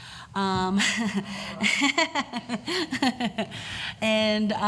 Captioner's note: laughs